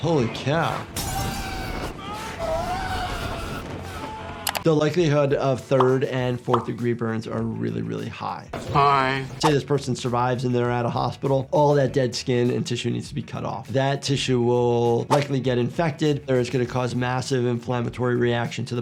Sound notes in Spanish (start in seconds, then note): 1.0 el vidrio se rompe; 2.4 gente gritando